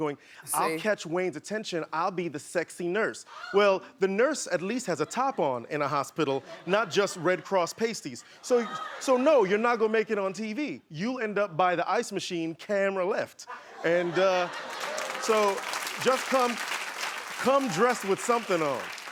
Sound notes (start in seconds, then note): 13.5 laughing; 14.6 clapping